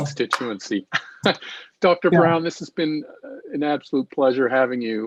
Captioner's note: chuckles